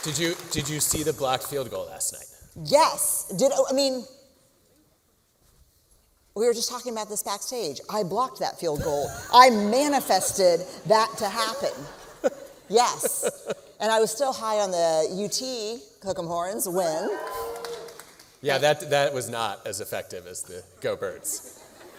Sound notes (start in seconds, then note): 12.9 laughter; 16.9 cheering